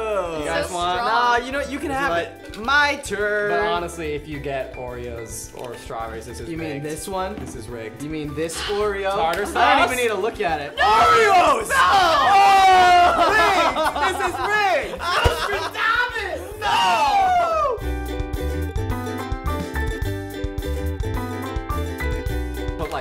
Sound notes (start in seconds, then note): 11.6 screaming; 12.8 laughing; 17.8 light folk music